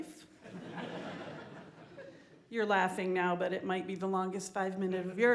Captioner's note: laughter